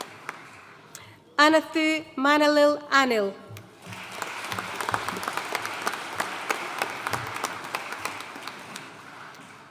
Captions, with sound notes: Ananthu Manalil Anil. (AUDIENCE APPLAUDING)